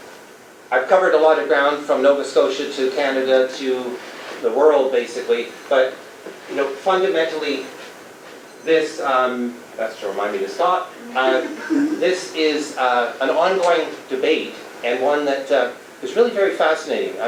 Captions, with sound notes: I've covered a lot of ground from Nova Scotia to Canada, to the world, bascially but fundamentally This um... [the sound of a beeper goes off] that's to remind me to stop, this is an ongoing debate and one that is really very fascinating.